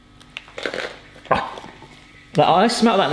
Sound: sniffs

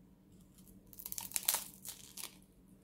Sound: crunch

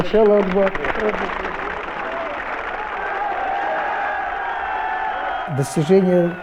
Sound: applause, cheers

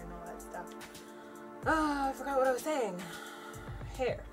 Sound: sighs

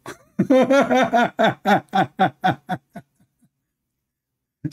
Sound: Ketawa

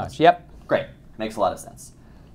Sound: voiceover

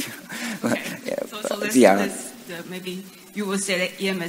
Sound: laughs slightly

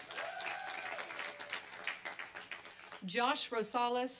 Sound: applause and cheering

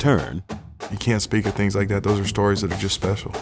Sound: voiceover

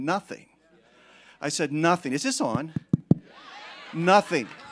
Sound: taps microphone; congregation laughing

